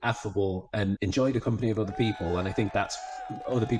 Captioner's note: people cheering